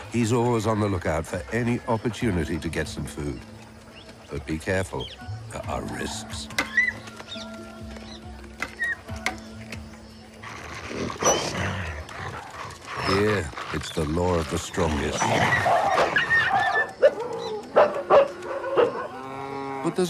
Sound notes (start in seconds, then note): 7.1 yelping; 10.9 growling; 15.4 barking; 15.4 yelping